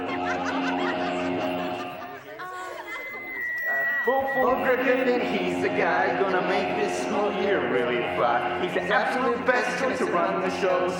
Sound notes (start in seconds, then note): 0.0 crowd laughs; 2.8 feedback